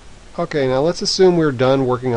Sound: voiceover

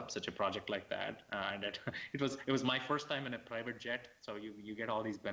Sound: laughs

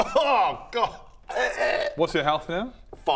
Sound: erghuh

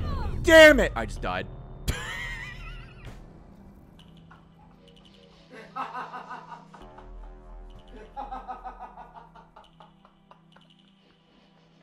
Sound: laughs

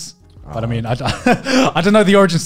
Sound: laughs

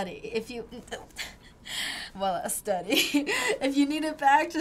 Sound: giggling

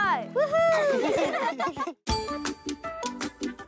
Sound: laughing; playful music

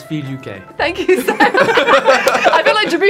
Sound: all laughing

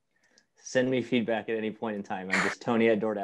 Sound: laugh

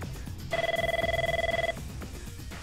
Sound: phone ringing

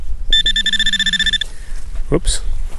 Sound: beeping

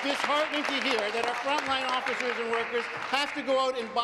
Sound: applause

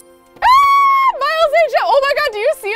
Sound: squeals

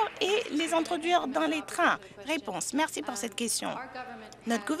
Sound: some Applause

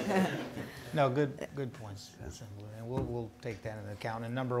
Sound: everyone chuckling

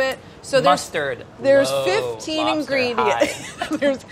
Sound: laughs

